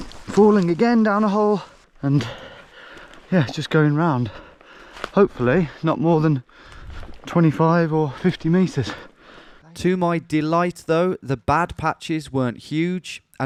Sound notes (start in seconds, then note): none